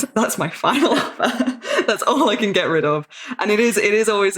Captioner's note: laughing